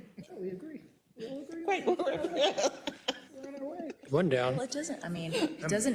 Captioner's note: laugh